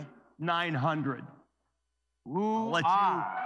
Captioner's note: cheers and applause